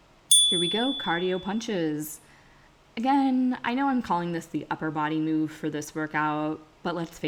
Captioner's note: chime